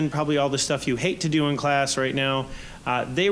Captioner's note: none